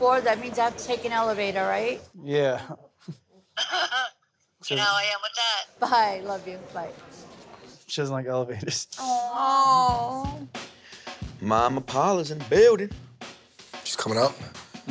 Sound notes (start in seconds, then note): 2.9 laughs; 8.9 laughs; 9.6 upbeat music